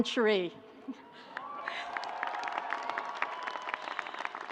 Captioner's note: audience applauds